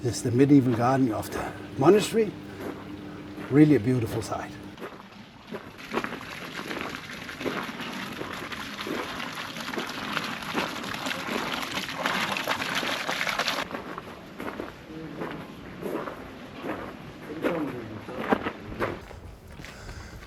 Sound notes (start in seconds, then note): 6.0 applause; 13.1 water Running